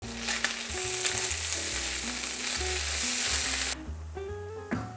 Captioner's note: sizzling sound